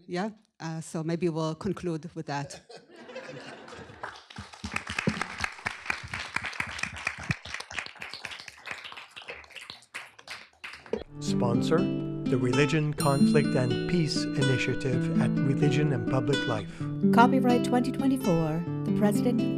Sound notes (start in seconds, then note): 2.4 laughter; 3.6 applause